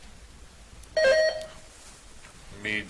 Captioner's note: buzzer chiming